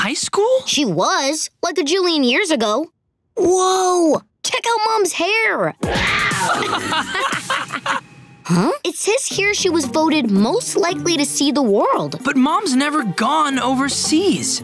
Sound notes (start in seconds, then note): 6.1 laughing; 6.4 tiger growling